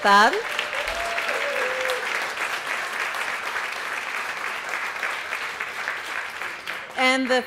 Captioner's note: applause